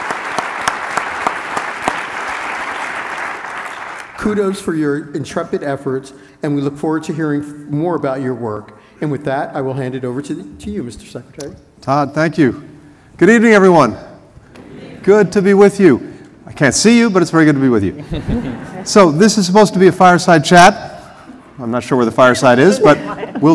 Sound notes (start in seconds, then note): 0.0 applause; 17.9 laughter